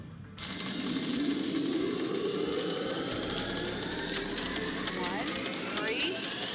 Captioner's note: raining money sound